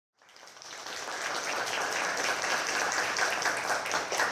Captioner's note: audience clapping